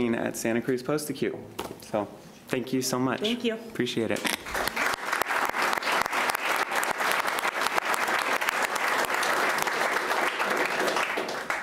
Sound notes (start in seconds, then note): 4.4 applauding